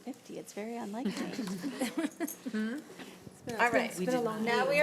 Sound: laughter

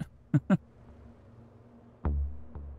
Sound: laughs

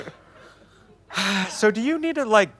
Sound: sigh

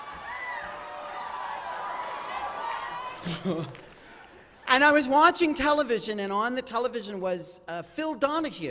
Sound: cheering

